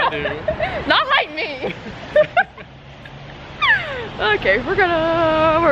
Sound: laughs

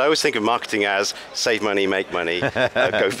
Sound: laughing

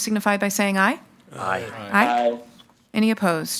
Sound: in Unison

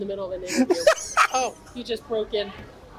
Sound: laughs

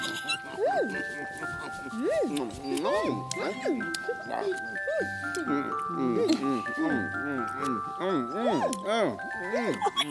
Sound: eating sounds

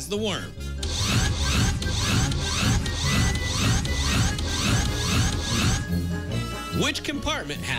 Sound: scratching

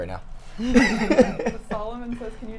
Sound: all laugh

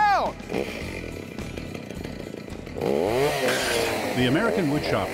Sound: chainsaw roaring

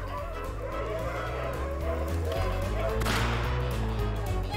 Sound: dogs barking; upbeat music; gunshot

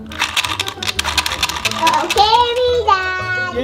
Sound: clicking

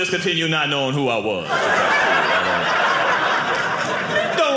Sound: audience laughing

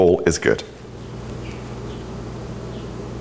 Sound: birds chirping

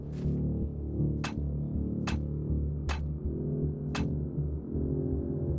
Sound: clanking continues

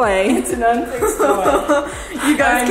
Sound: laughing

